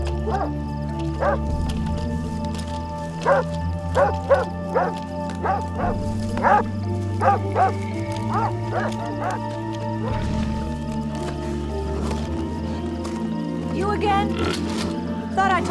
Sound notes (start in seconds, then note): 10.7 rustling